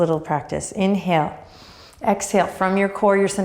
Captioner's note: breathing deeply